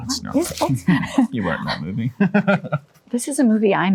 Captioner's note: laughing